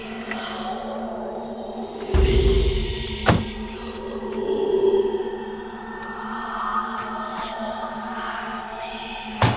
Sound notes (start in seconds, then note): 3.4 demonic Chanting Continues